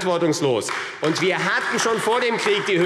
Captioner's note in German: Beifall AfD